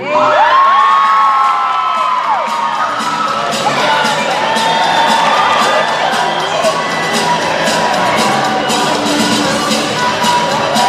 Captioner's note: cheering